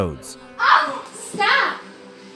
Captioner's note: yelling